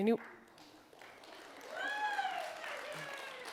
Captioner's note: applause and cheering